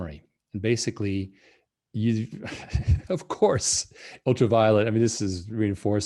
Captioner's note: laughing